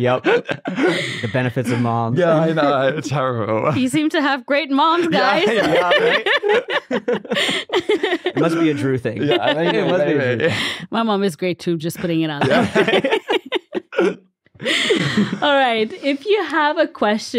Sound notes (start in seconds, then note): 7.0 everyone laughing; 12.4 everyone laughing